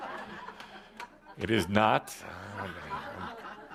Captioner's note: laughter